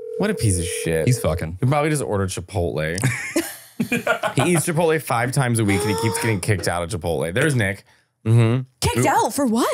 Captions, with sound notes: - I just wanna hear like a casual checkup between the two of you. - He'll pick up, be like, what? (laughing) (phone line ringing) He's so mean, I did this all the time. It shows.